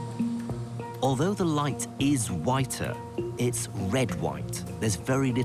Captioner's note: voiceover